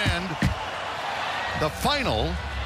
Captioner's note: crowd cheering